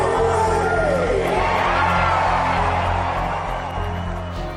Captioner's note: crowd cheering